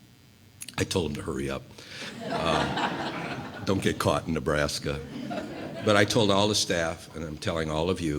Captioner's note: laughter